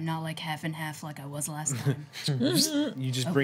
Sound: chuckling

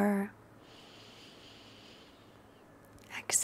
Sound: deep nasal inhalation

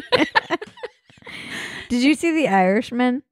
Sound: laughing

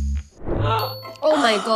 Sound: gasps

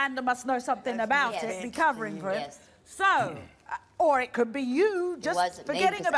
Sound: none

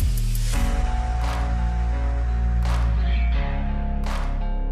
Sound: applause

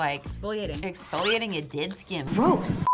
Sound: beep

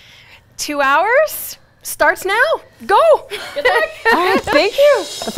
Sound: chuckles

